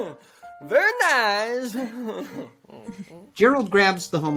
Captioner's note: laughs